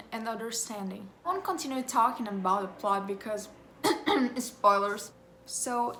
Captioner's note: coughs